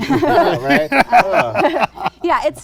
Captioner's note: laughter